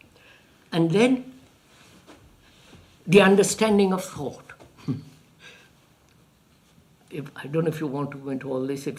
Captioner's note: laughs